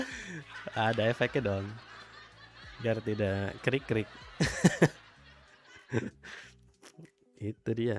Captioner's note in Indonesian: tertawa